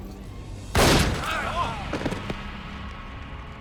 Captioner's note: gunshot bangs